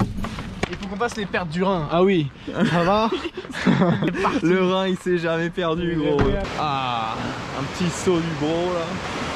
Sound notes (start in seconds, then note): 3.3 rhin falls